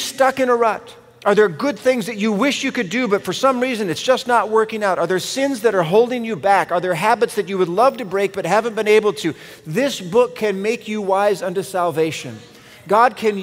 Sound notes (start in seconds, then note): none